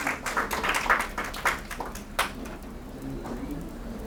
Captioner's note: audience applauds; murmuring in audience